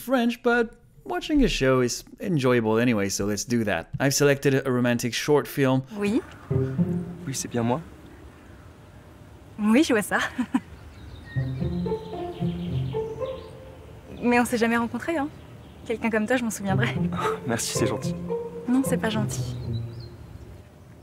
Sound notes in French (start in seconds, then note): 6.0 Scène en français